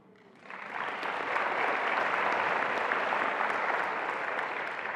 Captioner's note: attendees applauding